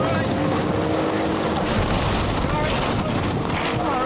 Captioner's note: waves crashing; wind whooshing